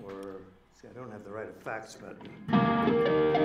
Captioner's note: notes tapping